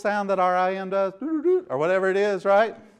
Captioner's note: imitates sound